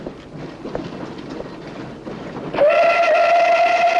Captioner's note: train whistle